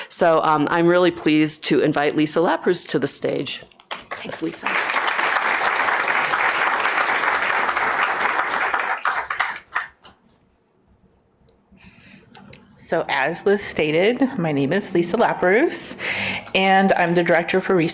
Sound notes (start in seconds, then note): 8.1 applause